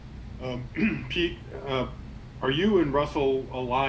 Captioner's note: throat clearing